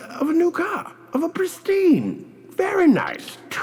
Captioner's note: in a North British accent